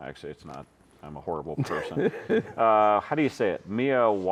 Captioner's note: laughing